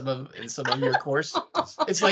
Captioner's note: laughing